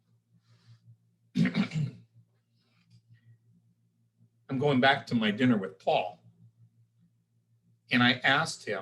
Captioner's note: cough